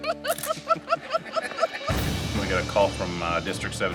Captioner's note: men laughing